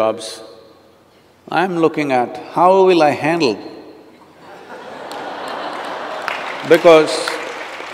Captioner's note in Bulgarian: смях/аплодисменти